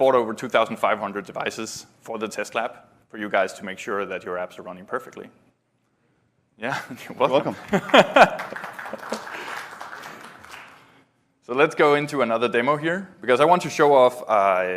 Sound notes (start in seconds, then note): 11.0 applause